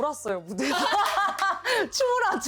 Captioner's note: laughing